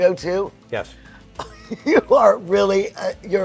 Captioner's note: laughs